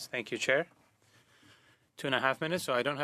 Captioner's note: speaking French